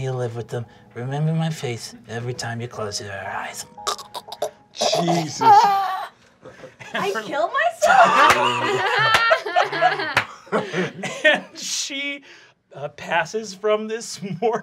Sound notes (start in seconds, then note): 3.8 choking; 6.4 laughing